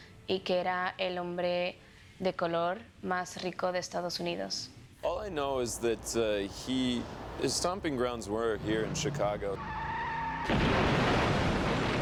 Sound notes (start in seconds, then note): 9.7 tires screeching